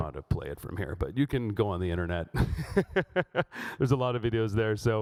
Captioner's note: laughs